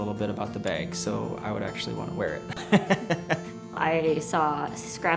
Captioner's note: laughs